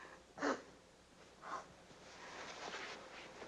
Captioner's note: sniffling